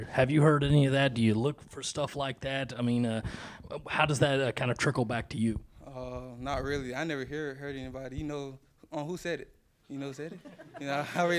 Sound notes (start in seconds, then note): 10.3 interviewers laugh